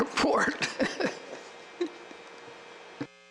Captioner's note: laughs